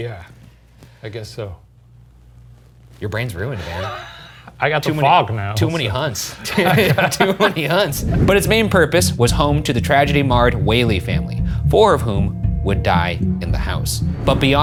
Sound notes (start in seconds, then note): 5.5 laughing; 6.2 both laughing